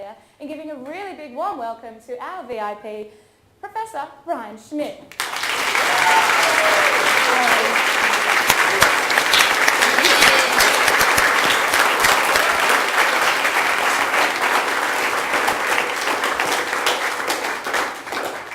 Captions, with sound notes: in giving a really big warm welcome to our VIP, Professor Brian Schmidt. [Audience applause]